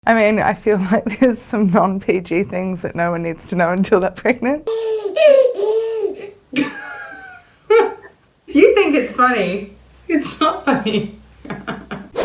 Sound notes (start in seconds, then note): 4.7 baby cooing; 6.6 laughing; 11.4 laughing